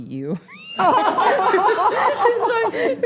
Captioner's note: everyone laughing